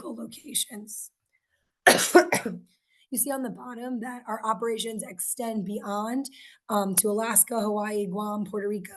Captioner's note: coughs